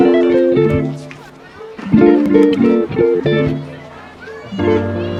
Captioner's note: upbeat music; chatter